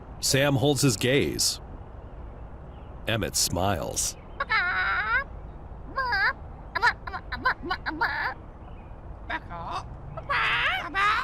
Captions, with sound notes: Sam holds his gaze. Emmett smiles. Bk-kaaaaw. (chicken noises) Bak-kaaaaw!